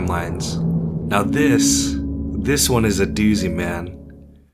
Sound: exhales

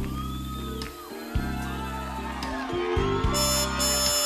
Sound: crowd cheering

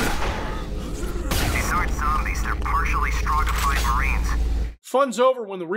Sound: MARINE over the radio

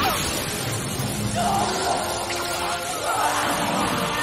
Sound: screaming

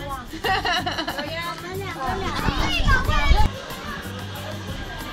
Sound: laughing

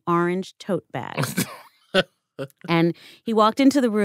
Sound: chuckles

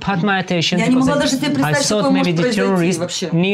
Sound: speaking in foreign language

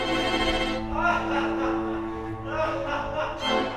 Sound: evil laughter continues

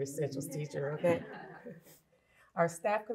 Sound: laughter

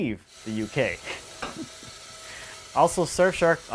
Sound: machine running

